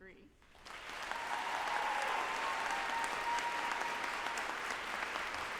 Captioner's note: group applauding and cheering